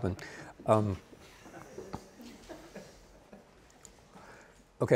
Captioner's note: student chuckling